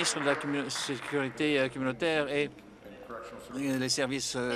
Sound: applause

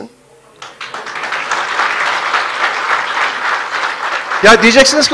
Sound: applause

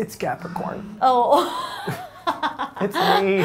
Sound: laughing

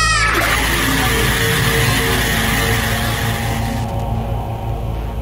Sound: screams of 1 trillion souls

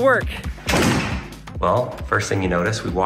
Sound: door clattering

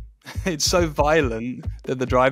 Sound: laughing

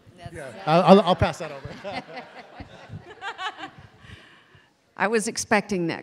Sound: audience laughing

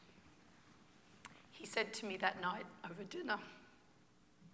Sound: voice breaking

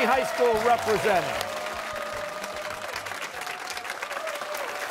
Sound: cheers and applause

